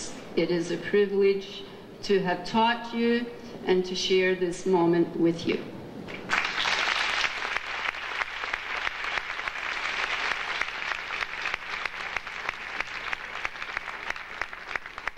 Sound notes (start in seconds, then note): 6.1 audience applauding